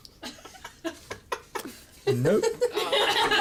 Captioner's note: laughter